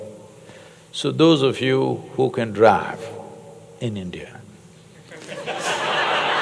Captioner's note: laughter/Applause